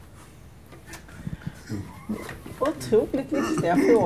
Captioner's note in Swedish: Skratt